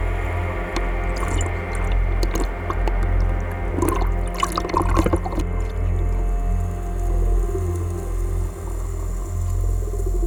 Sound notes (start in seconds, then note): 0.4 water gurgling; 5.6 suspenseful music